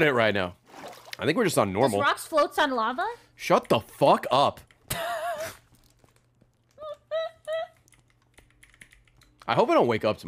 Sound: laughs

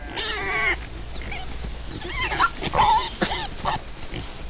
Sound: pigs snorting

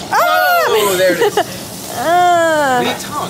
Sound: gasp; whines

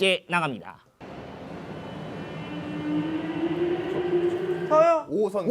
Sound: the sound of a subway train in operation

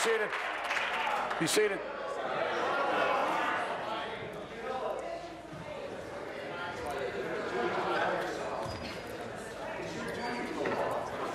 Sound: applause

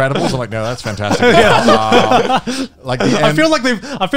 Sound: everyone laughs

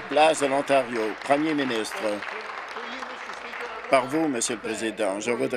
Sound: applause

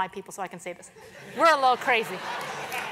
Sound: laugh

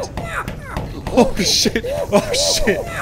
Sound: laughs

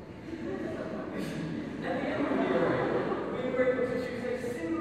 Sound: laughs

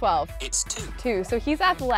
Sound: voice On Phone

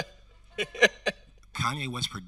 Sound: host laughing

